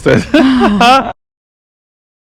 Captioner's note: laugh